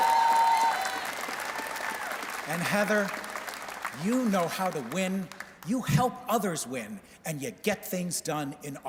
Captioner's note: cheers and Applause